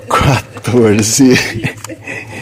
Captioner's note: laughing